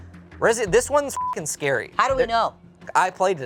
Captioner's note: beep